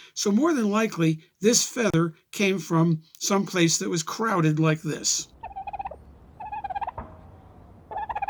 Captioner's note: turkey gobbles